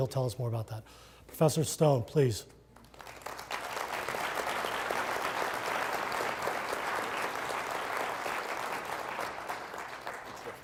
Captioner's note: applause